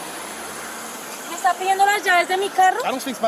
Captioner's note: speaking in Spanish